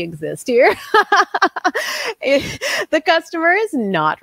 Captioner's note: laughing